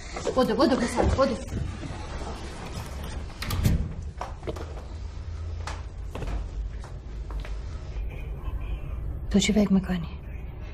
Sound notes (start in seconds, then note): 2.7 door closing